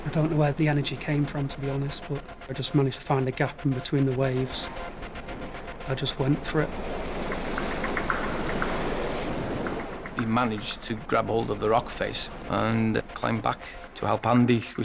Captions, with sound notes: I don't know where the energy came from, to be honest, but I just managed to find a gap in between the waves. (intense music) I just went for it. (water whooshing) (intense music) - He managed to grab hold of the rock face and climbed back to help Andy,